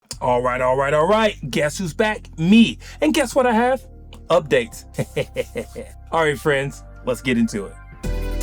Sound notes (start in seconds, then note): 4.9 laughs